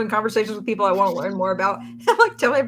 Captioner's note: laughs